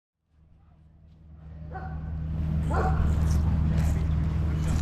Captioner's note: dog barking